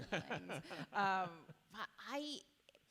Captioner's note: chuckles